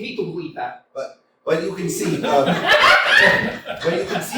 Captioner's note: laughter